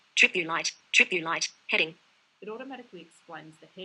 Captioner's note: VoiceOver announcing content